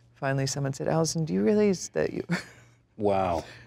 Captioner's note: chuckles